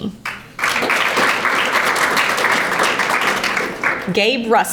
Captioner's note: audience applauding